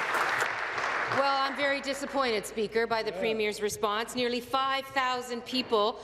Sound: applause

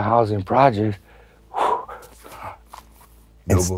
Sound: exhales

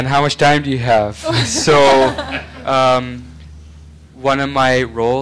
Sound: laughing

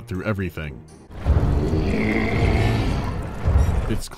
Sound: irate, gurgling roar

